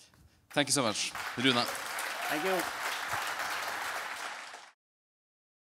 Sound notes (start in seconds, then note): 3.3 audience clapping